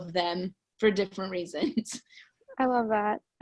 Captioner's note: laughs